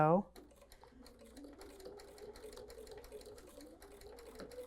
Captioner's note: sewing Machine